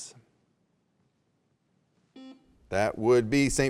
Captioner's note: buzzer beeps